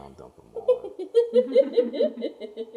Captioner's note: laughter